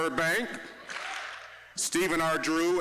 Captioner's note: audience clapping once